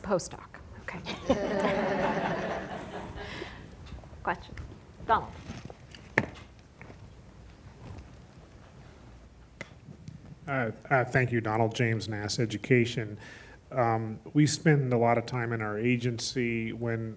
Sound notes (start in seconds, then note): 1.0 laughing; 1.1 audience laughing